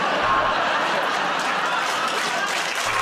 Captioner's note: buzzer buzzes; laughter